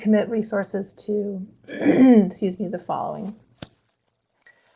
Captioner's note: clears throat